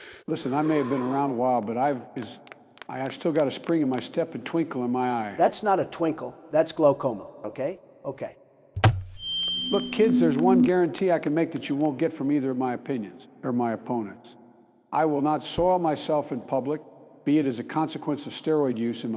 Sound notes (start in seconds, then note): 2.4 footsteps approaching; 9.6 microphone hits ground and feeds back